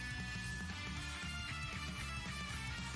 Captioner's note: none